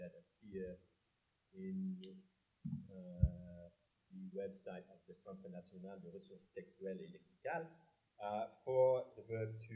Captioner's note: french